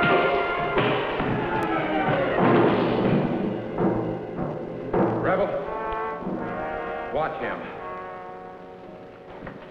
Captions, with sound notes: (Long Horn thuds) - Rebel, watch him.